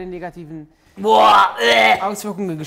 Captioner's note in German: Würgen